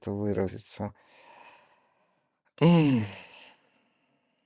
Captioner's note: exhales deeply